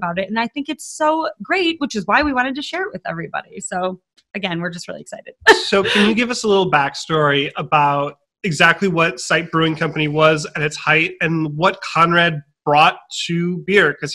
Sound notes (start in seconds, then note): 5.4 laughing